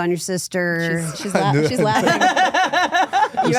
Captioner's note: laughs